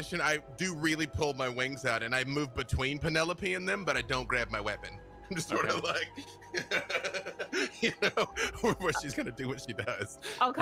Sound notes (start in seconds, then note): 5.4 laughs